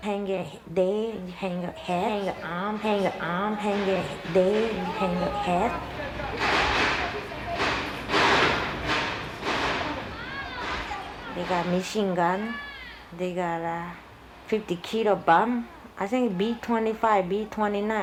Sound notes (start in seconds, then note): 3.8 echoes; 6.0 sound of gunfire